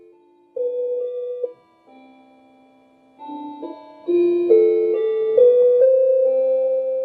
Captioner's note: clock chiming